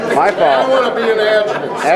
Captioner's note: group laughing